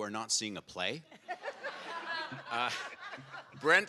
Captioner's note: audience laughs